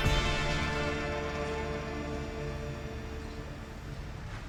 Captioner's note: film reel whirring